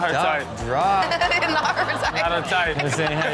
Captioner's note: laughs